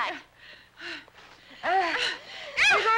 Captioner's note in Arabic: لهث